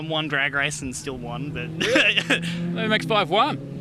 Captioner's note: laughs